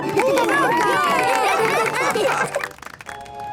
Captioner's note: cheering, applause